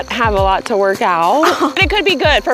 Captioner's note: scoffs